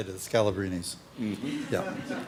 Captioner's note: laughter